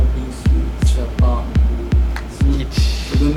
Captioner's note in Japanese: つぶやき